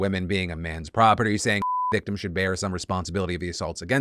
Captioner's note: beeps